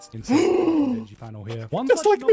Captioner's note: gasp